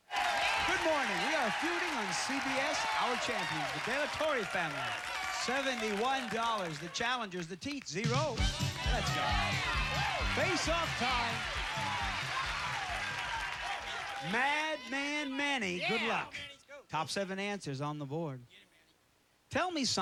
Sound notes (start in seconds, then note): 11.1 cheers and applause